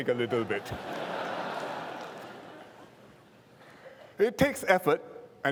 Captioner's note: laughter